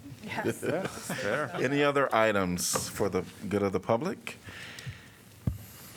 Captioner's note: laughter